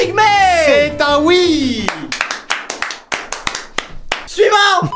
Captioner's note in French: clap clap clap clap clap clap clap clap